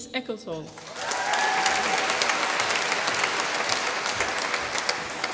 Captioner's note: applause